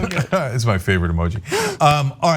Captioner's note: laugh